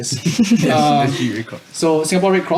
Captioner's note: chuckles